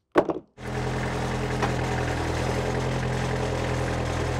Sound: equipment rumbles

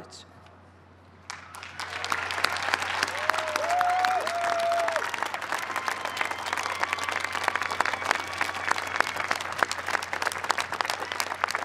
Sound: cheers and applause

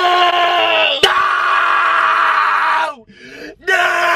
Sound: yelling

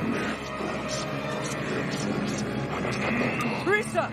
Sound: chanting continues

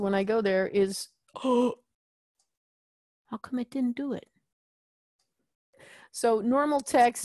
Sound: gasps

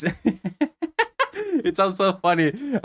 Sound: laughs

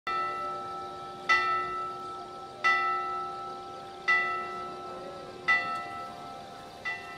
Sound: bell tolls

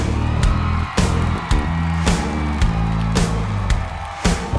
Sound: crowd cheering

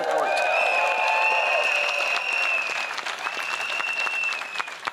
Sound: crowd cheers

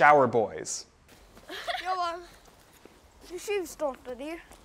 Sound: child laughs; speaking foreign language

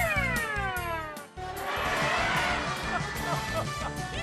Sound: children laughing

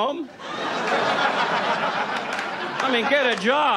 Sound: audience laughs

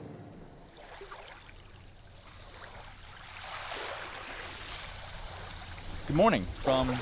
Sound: waves crashing on beach shore

